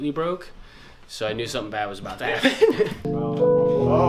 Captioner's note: laughs